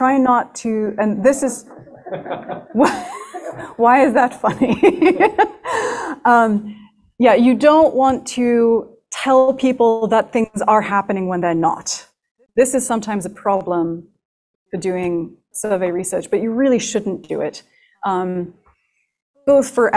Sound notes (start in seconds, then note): 1.6 laughter; 4.0 laughs